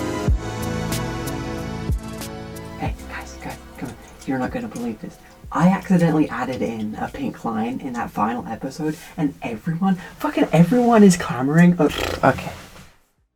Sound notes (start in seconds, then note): 11.8 blows raspberry